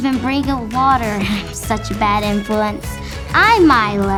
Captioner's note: laughs sheepishly